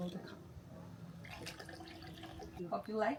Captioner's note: water trickling